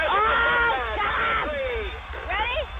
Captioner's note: pat